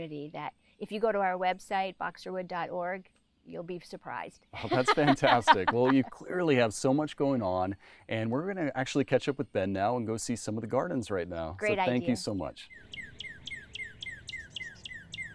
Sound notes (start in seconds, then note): 4.6 laughs; 11.7 bird chirping